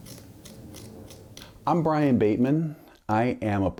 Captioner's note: tool scraping the pumpkin